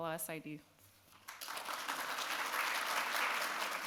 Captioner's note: clapping